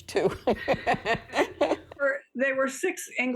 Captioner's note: chuckles